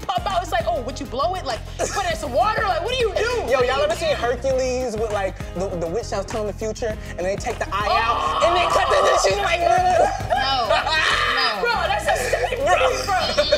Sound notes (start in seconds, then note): 7.7 shrieking; 10.5 screams